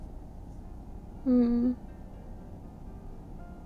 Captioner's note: wake up yawn; sleepy mm